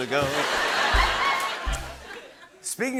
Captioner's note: laughter